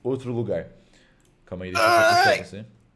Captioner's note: grunts